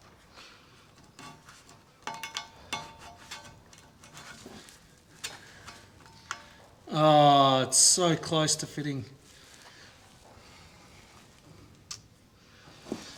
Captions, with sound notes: (metal clanking) Oh, it's so close to fitting.